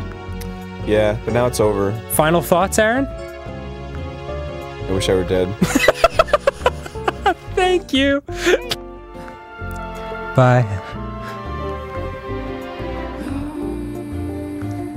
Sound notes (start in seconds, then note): 5.6 laughing